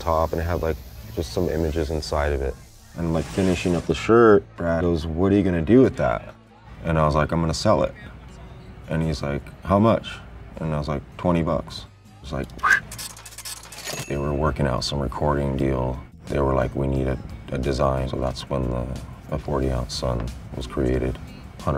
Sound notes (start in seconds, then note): 12.9 cash register dinging